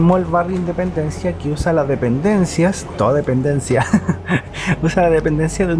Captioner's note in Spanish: risas